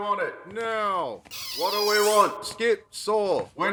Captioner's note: door squeaking open